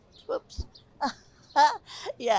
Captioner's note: laughter